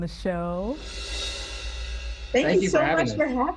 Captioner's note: whoosh sound plays